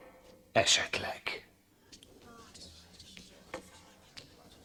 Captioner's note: courtiers murmur